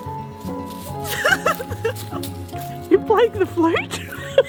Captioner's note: playful folk music; laughter; laughter